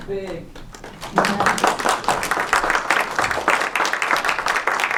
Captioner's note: applause